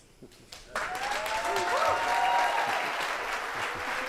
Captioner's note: audience applauding; audience cheering